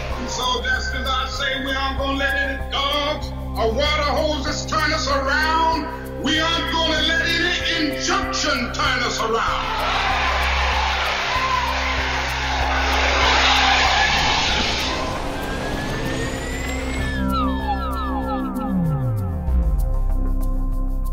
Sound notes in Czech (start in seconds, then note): 16.2 potlesk